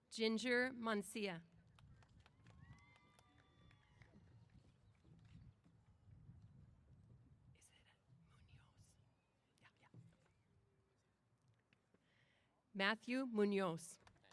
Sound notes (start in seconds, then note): 1.7 applause & Cheers